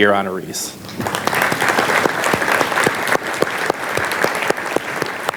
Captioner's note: audience applauds